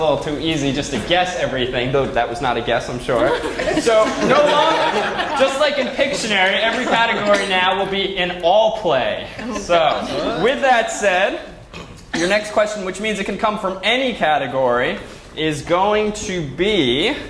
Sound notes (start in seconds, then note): 3.2 laugh